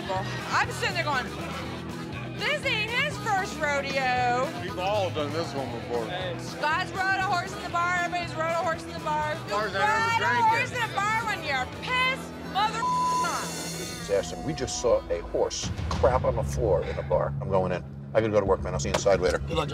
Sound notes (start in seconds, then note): 12.8 beep